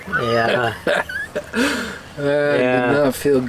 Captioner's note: laughing